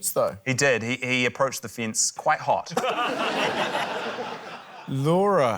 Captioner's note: laughter